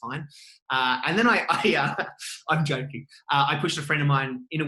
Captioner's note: laughing